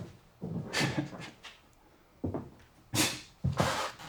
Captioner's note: Koch chuckling